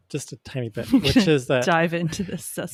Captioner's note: chuckles